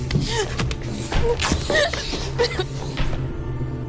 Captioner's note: crying; impacts; ripping